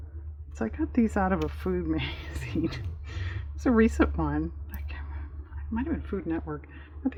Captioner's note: laughs